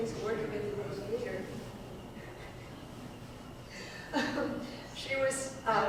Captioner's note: laughs